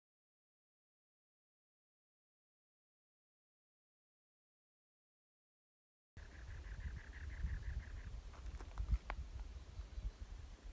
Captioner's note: morning campsite noise